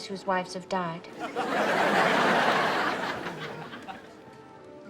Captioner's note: audience laughs